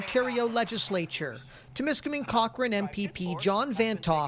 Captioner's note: applause